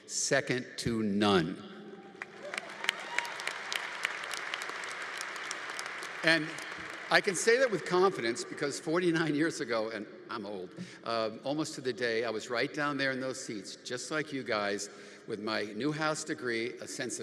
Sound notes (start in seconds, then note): 2.1 congregation applauding